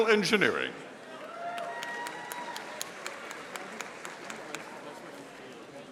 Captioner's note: audience applauding